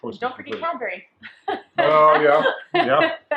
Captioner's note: laughs